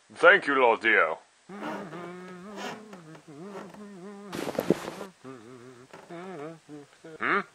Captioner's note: humming